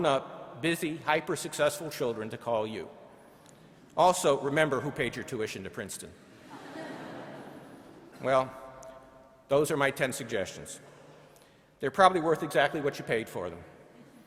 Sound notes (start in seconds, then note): 6.5 laughing